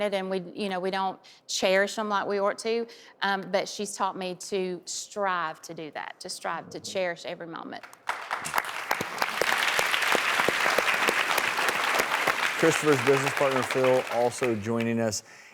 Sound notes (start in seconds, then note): 7.8 audience applauds